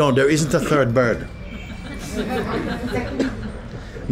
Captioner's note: laughter